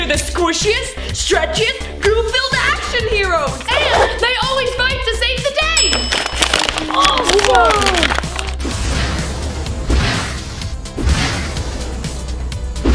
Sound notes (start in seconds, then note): 6.0 plastic ripping; 9.0 upbeat music